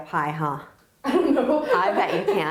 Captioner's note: laughs